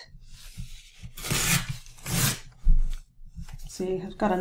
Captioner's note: paper ripping